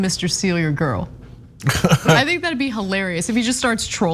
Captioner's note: laugh